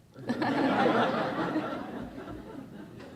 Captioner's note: laughing